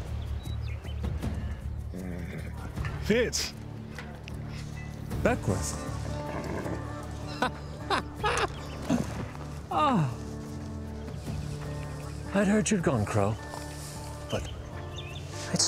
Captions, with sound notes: [HORSE GRUNTS] FITZ. BECKWOURTH! [CHUCKLES] OH! I HEARD YOU'D GONE CROW,